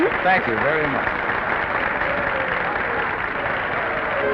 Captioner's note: applause and laughing